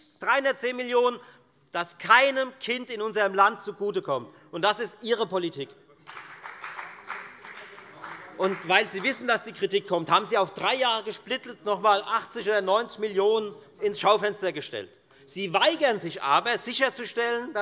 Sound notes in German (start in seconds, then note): 6.0 Beifall bei der FDP